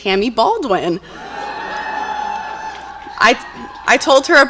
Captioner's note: audience cheers